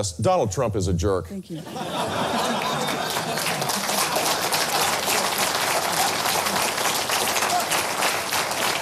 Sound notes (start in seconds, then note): 2.1 audience applauds